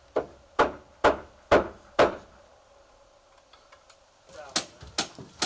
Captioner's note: hammer banging